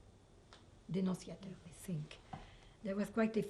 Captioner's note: french